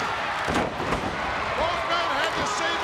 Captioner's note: bodies thud